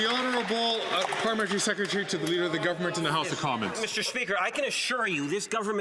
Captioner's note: some Applause